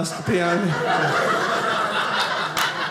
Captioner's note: audience laughing